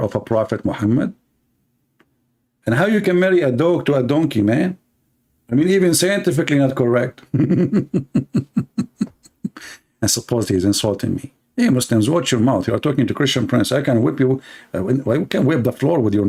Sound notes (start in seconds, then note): 7.2 Ketawa